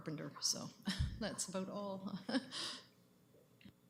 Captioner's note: chuckles